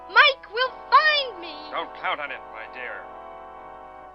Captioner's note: man on Radio